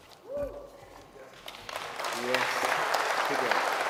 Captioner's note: audience cheers and applauds